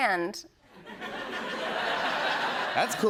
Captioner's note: laughter